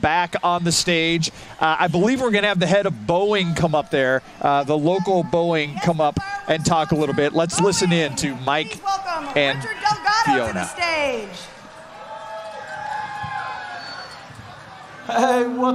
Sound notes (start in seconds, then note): 0.0 crowrd cheing